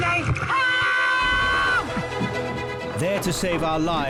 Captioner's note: casualty screaming